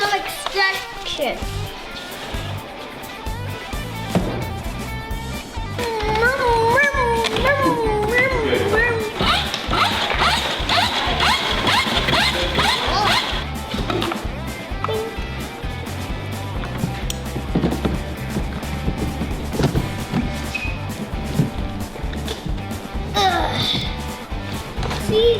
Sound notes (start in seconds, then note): 4.4 makes car noises; 8.9 high pitched whine